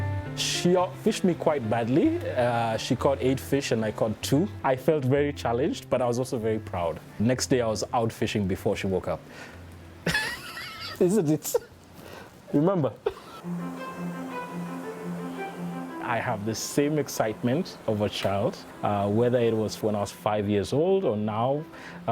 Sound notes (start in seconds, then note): 10.0 laughter